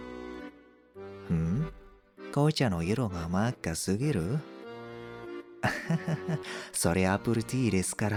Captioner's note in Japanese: 笑い